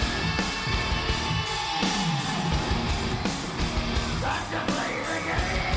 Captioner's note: audience continues cheering